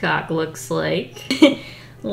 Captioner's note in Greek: Γέλια